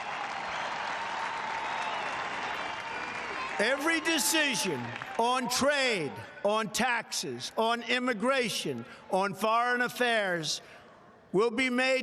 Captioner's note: applause